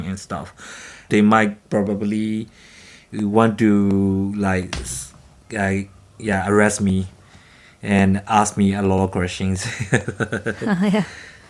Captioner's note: chuckles